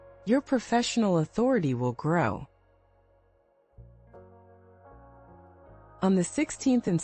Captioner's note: pause